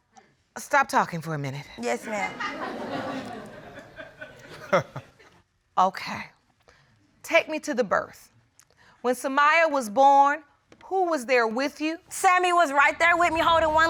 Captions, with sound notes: -Stop talking for a minute. -Yes, ma'am. [laughter] Okay. Take me to the birth. When Samiya was born, who was there with you? Sammie was right there with me, holding one leg,